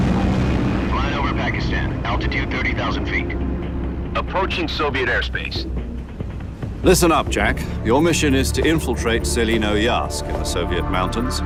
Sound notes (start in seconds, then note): 0.9 radio voice